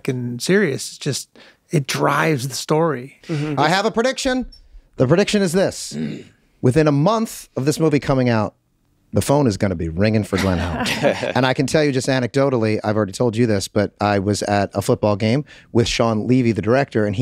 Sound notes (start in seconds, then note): 10.4 everyone laughs